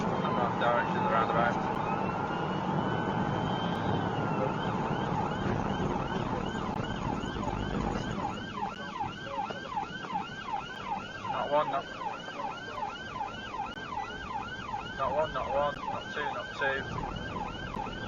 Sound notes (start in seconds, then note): 6.2 police car siren